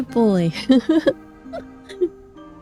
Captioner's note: laughs